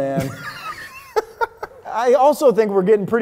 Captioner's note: laughing